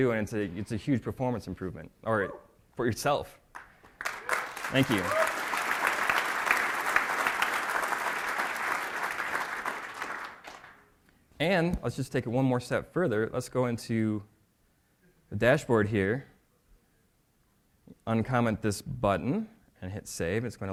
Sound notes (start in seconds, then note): 3.5 applause